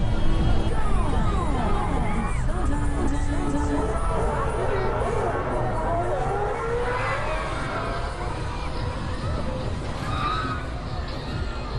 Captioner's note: crowd Noise